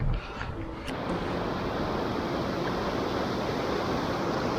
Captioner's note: rushing water